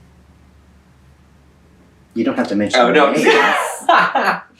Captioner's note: laughter